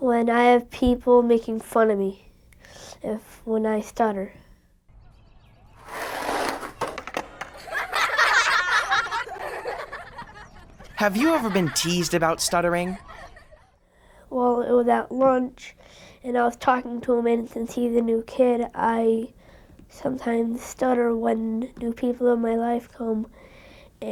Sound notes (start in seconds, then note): 5.4 nature noises; 5.6 skateboard scraping; 7.5 children laughing mockingly